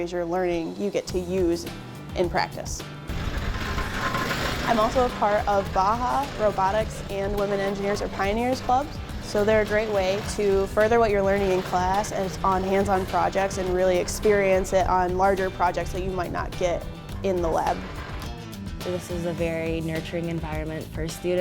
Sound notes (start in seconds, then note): 2.6 buggy engine roaring